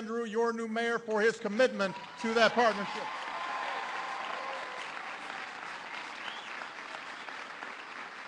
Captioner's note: applause